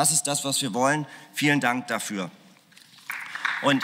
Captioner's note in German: Beifall